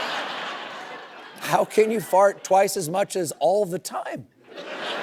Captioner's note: laughter